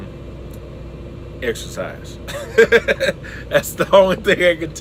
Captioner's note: laughs